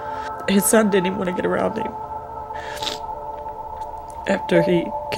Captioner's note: with much emotion